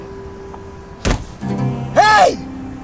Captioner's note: thud